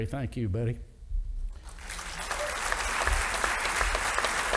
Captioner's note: audience applauding